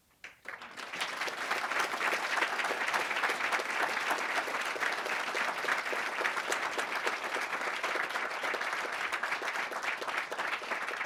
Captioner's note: applause